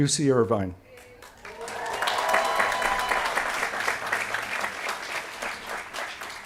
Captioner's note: applause